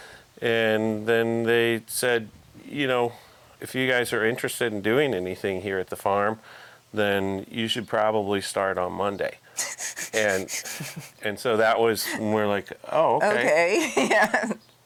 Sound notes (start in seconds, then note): 9.6 laughing; 13.2 laughing